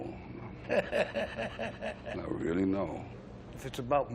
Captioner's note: laughing